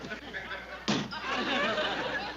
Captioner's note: snap